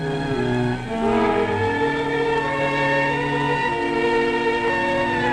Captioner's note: siren wailing